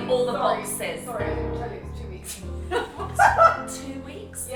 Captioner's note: chuckles